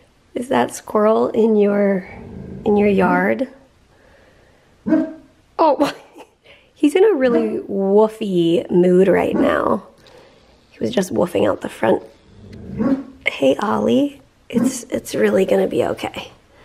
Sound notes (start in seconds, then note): 4.8 Ollie woofs; 12.8 Ollie woofs